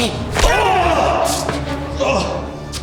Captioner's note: hits thudding; punch crunching